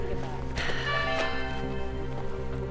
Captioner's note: computer chimes